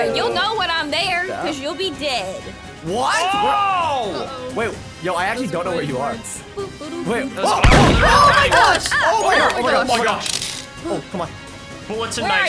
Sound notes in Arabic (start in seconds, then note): 7.6 نيران البندقية